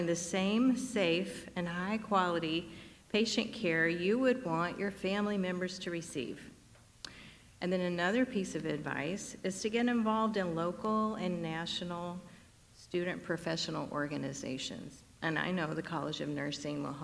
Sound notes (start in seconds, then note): none